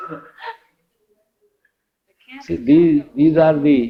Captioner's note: much laughter